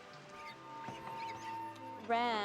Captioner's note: glass huinmmg